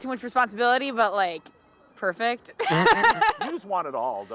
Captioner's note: laughing